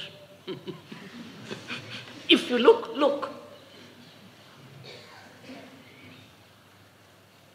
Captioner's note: laughs